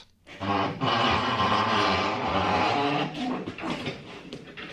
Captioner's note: wheels squeaking loudly